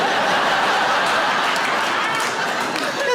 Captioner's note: audience laughing